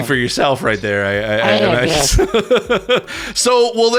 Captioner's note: laughs